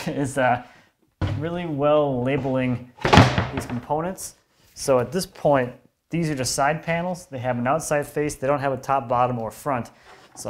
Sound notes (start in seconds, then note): none